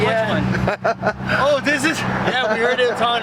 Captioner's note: laughter